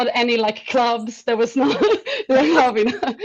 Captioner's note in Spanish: risas